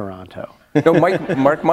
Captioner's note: laughter